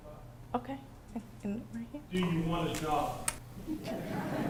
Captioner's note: laughter